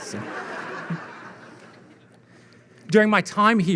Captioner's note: audience laughing